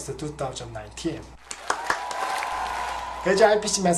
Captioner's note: cheers, applause